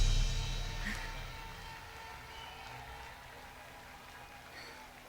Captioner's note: Yuen sighing